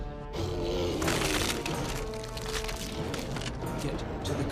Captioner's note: suspenseful music; sphinx growling; bones crunching